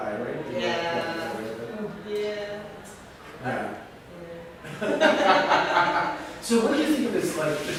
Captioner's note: laughter